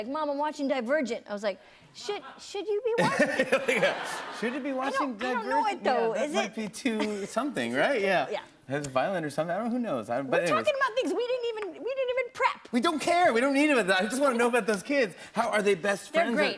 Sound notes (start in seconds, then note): 2.9 laughing